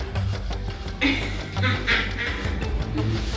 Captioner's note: laughs